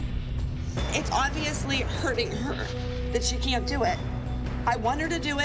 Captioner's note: crying